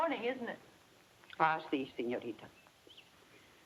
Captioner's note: speaks in foreign language